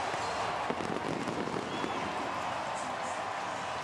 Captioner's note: fireworks